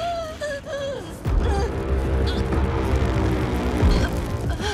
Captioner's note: whimpering Struggle